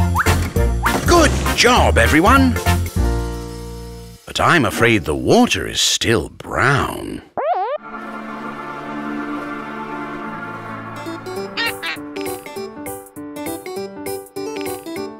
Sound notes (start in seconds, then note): 7.9 flies buzzing; 11.5 quacks